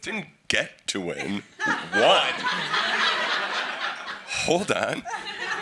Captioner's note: everyone laughs